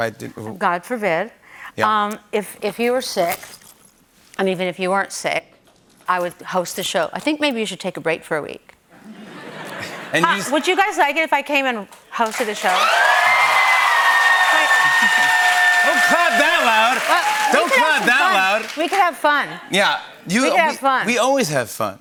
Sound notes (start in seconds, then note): 8.9 laughter; 12.2 cheers and applause